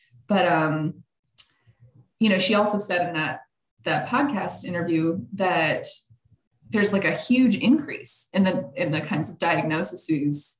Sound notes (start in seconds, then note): none